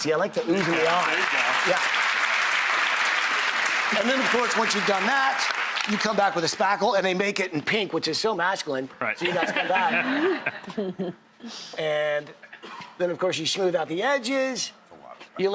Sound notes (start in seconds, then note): 0.0 applauding; 9.2 laughing